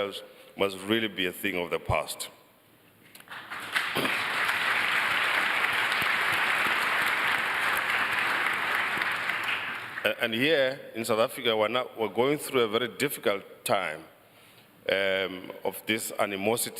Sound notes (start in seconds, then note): 3.2 applause